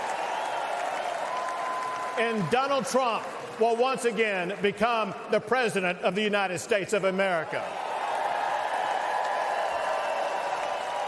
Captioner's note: cheers and applause